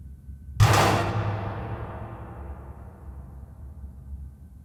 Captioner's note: mechanical sounds